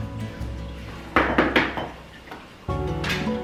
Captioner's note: cup banging; slow music